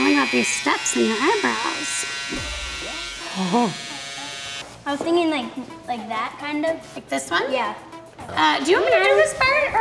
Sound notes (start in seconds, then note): 3.4 chuckling